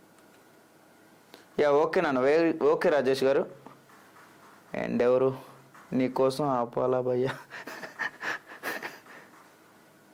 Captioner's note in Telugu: నవ్వు